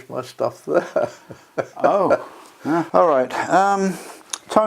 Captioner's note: laugh